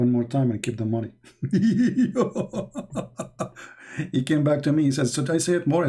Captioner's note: Ketawa